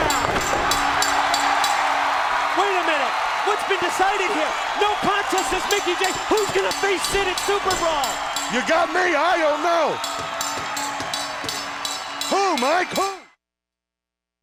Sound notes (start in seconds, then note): 2.0 crowd cheering; 2.8 bell ringing; 10.6 bell ringing